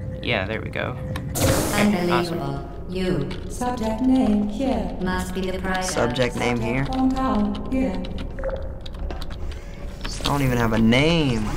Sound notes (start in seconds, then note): 8.4 intercom turns off; 9.3 door whirs